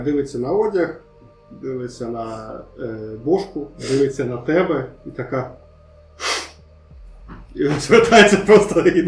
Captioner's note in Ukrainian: всхлипує